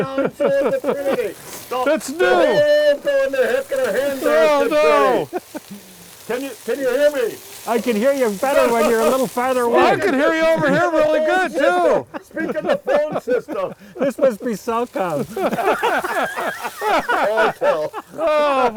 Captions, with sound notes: That's not the trinity! (talking into can) Can you hear me? - I can hear you better when you're a little further away. - I can hear you over here really good too! - Speak in the phone system. - This must be soft pound. (cackling laughter) - Oh boy!